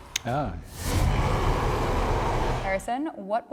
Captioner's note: Red Hulk growls